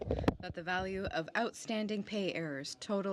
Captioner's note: speaking French